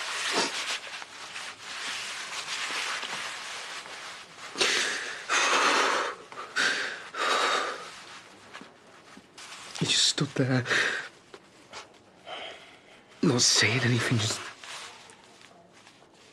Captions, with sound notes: *Aaron takes shaky breaths* He just stood there... ...not saying anything, just...